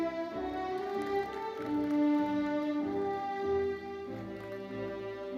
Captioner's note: audience applauding; uplifting classical music continues